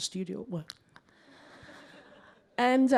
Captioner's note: laughter